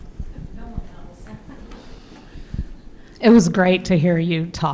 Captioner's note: laughs